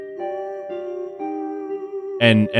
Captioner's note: humming